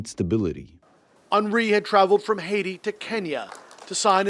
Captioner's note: voice-over